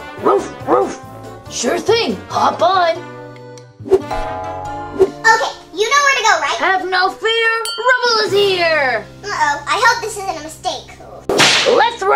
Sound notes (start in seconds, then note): 0.1 barking; 4.1 boing sound; 11.3 whip lashes